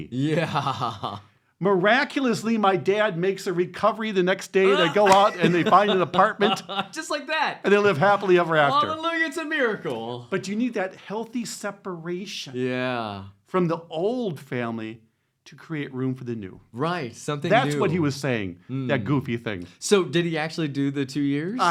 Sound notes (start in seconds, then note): 4.6 laughing